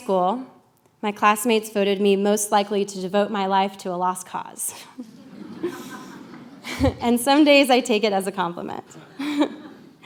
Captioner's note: laughter; laughter